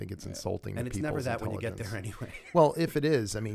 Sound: chuckle

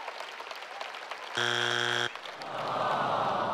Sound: audience applauding; buzzer rings

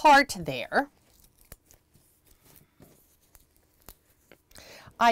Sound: tape sounds

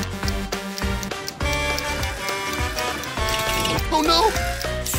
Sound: Blaze honking

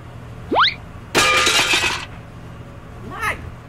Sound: cartoon sound swing, crash

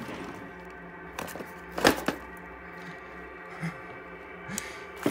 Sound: ruffling sounds

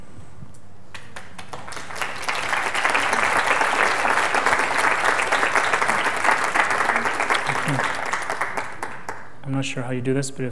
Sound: clapping

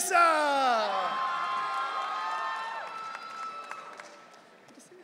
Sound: audience cheering

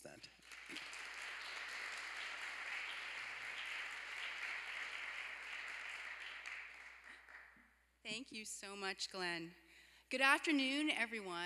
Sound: applause

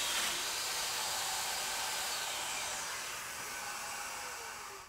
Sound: saw buzzing

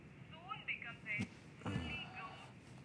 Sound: sighs

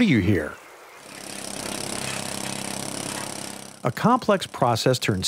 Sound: jackhammer drilling

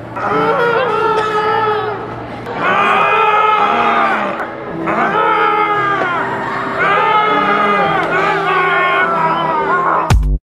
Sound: yelling

